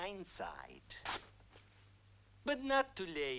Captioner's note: blade swishes